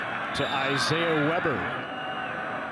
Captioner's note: referee blows whistle